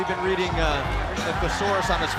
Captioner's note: crowd cheering